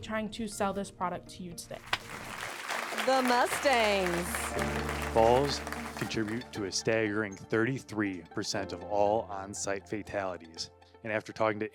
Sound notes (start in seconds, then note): 1.8 crowd applauds